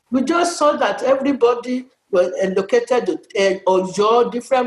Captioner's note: none